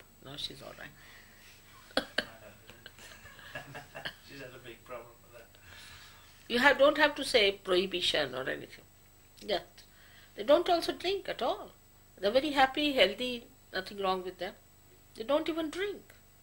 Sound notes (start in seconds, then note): 1.8 laughs; 1.9 shri mataji laughs